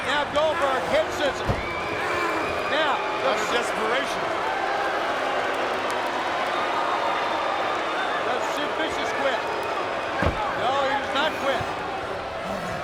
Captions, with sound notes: Now Goldberg, head scissors. Yeah. That's desperation. (crowd booing) Does Sid Vicious quit? No, he does not quit.